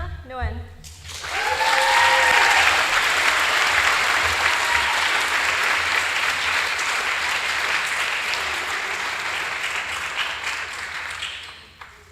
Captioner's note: applause